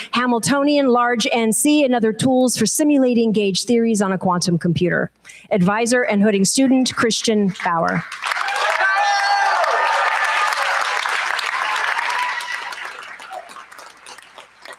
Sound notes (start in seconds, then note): 8.0 cheers, applause